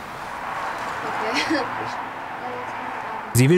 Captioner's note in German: Sie lacht